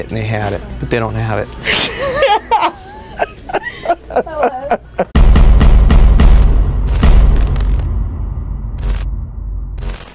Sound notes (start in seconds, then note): 1.7 laughing; 5.3 constant banging; 6.5 buzzing